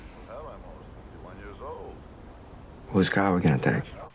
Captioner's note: people chattering